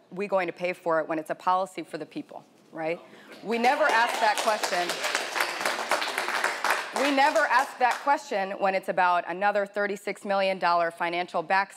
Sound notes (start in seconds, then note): 3.7 audience applauding